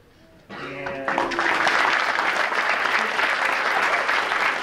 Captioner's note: clapping